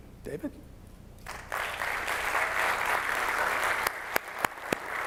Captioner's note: audience applauds